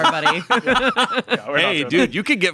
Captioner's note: podcasters laughing